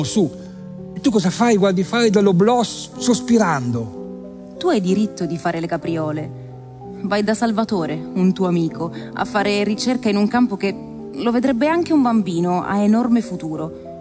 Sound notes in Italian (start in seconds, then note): 4.4 voce di donna fuori campo